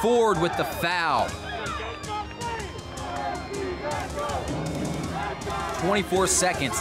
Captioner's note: crowd cheers: lets go !